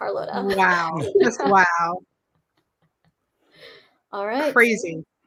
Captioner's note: laughs